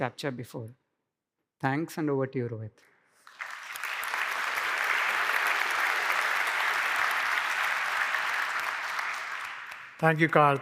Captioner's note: applause